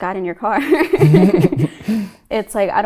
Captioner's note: both laughing